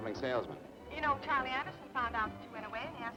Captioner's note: on telephone